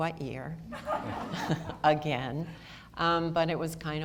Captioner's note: audience laughter